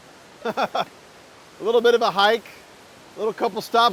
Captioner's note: laughing